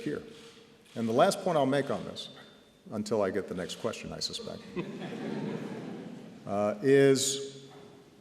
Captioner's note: laughter